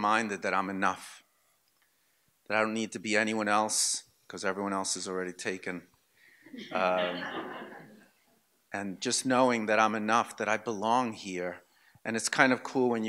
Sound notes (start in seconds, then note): 6.6 audience laughter